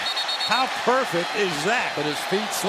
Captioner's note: whistles